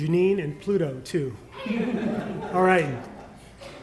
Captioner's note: laughter